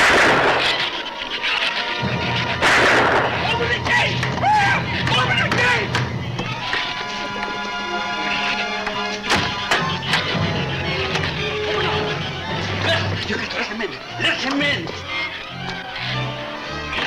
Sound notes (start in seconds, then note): 0.1 gun fires; 0.1 shrews chatter; 4.0 yelps; 8.2 shrews chatter; 9.2 gate slams